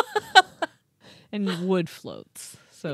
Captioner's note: laughing